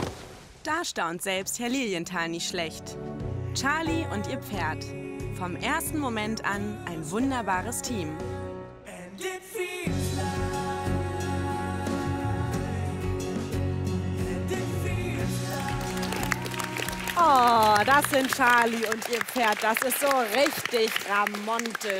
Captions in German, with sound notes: Da staunt selbst Herr Liniental nicht schlecht. Charlie und ihr Pferd, vom 1.Moment an ein wunderbares Team. (Romantische Musik) (Applaus) Oh! Das sind Charlie und ihr Pferd. Richtig ramontisch!